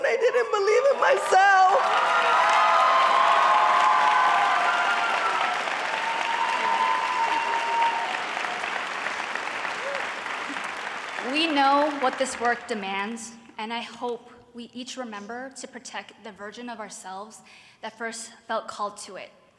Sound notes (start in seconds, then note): 2.1 cheering and applause